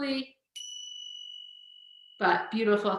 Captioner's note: tingshas ring